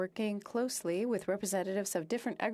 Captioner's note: speaking French